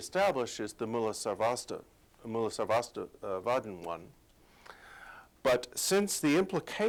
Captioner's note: non-english speech